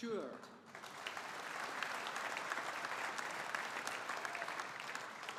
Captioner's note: audience applauding